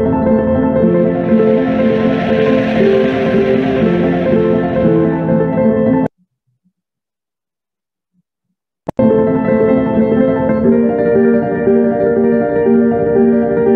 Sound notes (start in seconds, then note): 1.3 crowd applauding